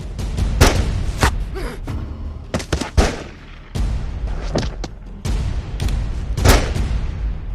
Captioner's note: gunshots